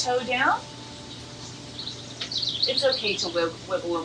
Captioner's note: birds chirps; calming ambient music